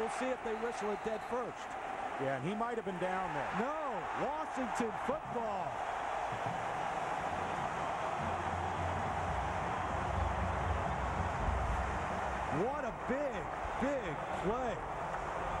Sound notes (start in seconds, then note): 5.9 cheering, applause